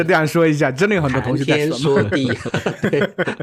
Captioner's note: chatting